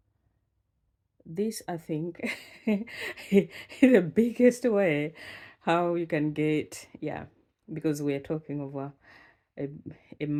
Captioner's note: laughs HEHEHEHE